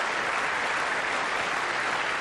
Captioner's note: applause